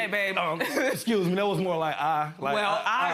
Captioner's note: chuckles